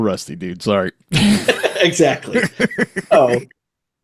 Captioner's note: laughs